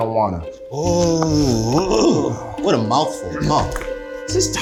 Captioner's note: groans